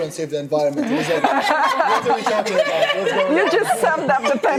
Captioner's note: laughing